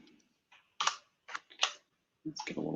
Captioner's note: typing